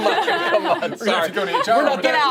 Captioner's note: laughter